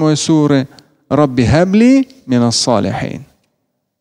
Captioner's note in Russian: Говорит на арабском